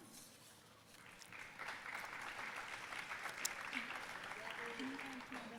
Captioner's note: audience applauding